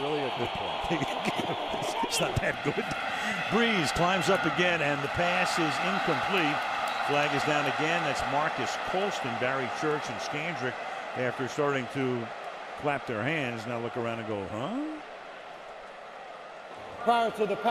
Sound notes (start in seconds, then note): 1.1 laughter